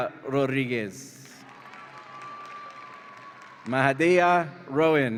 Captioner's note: audience applauds and cheers